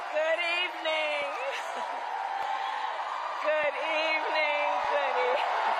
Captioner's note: cheers and applause